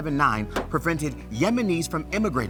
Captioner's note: paper rustles; stamp taps